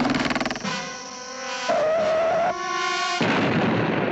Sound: screeches; explosion

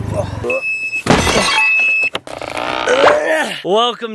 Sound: glass breaking; beeping

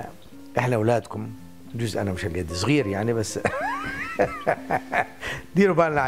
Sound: laughing

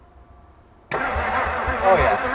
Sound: vehicle engine humming

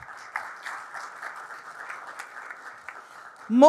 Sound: applause

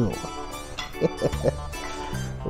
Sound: laughs

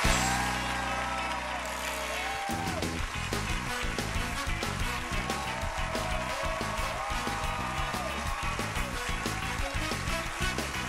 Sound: cheers and applause

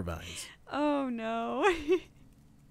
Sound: chuckles

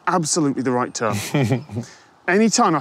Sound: snickers

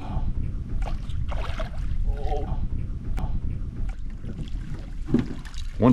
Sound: fish splashing

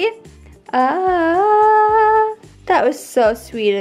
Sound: humming

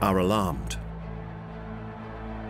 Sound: cheering

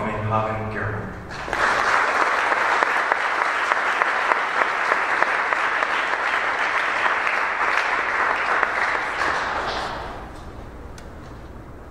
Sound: applauding

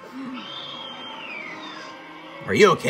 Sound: Lizalfos screeching

